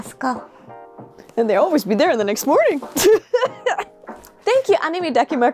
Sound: laugh

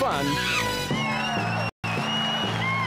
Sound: cheering

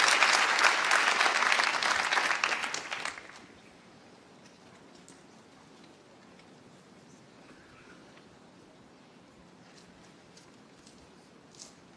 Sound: applause

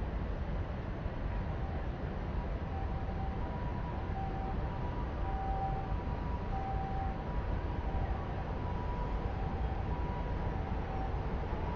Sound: japan Ambulance Noise

